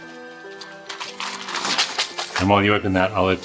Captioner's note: gift contents clattering